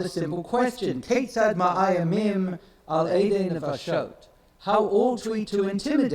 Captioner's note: speaks in foreign language